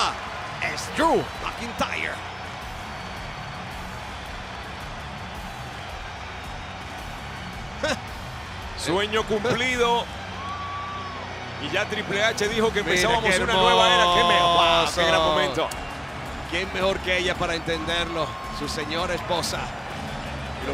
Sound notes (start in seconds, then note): 2.3 applause